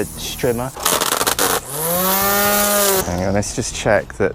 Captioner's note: bosch art23 trimmer noise